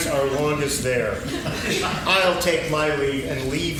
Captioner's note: laughing